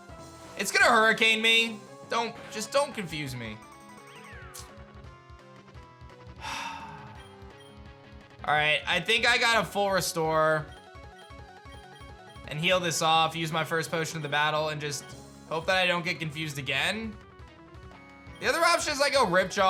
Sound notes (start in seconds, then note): 6.4 sighs